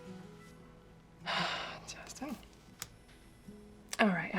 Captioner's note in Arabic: تنهدات